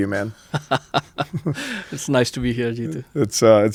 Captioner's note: laughs